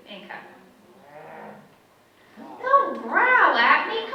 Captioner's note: audience member growls in frustration